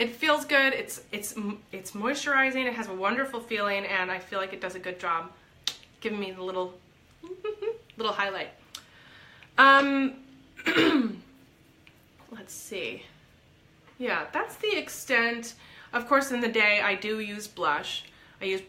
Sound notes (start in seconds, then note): 7.2 giggles; 10.6 clears throat